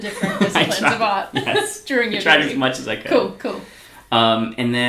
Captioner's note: laughs